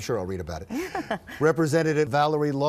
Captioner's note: laughs